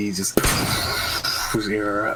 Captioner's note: bang